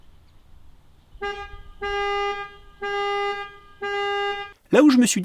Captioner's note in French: Alarme